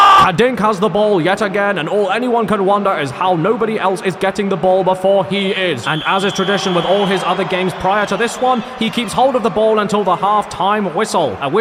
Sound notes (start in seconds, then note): 5.8 whistle blowing